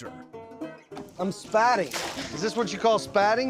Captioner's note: splash